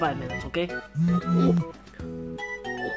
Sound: phone vibrates

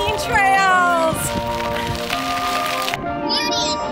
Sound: gravel crunching

